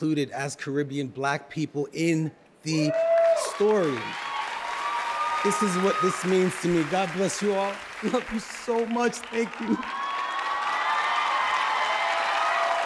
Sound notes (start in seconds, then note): 4.0 cheers and applause; 10.2 cheers and applause